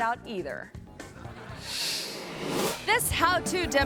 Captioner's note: audience laughing